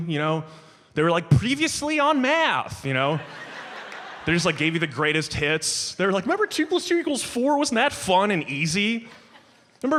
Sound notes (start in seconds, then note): 3.0 audience laughs